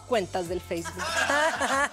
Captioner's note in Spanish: Ríe